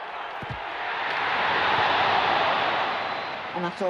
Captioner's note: crowd cheers, groans